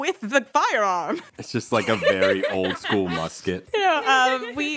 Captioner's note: laughter